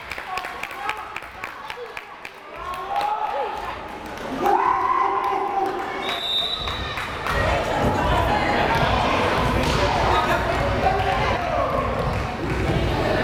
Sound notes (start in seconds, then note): 6.0 whistle blares